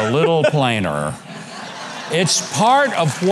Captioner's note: audience laughs